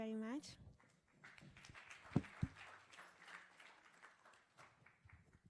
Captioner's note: applause